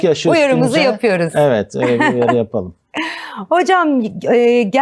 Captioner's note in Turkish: kahkaha